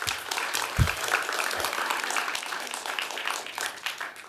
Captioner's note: applause